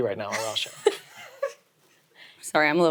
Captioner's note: chuckles